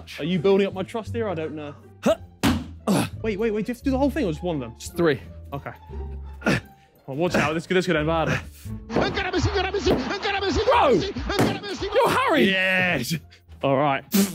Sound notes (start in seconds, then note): 2.8 grunting